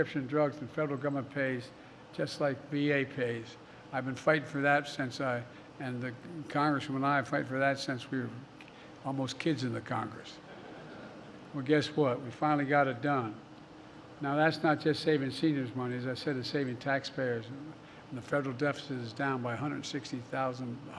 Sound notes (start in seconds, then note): 10.4 laughter